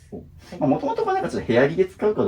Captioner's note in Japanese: none